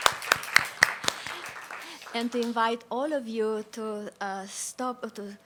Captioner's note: applause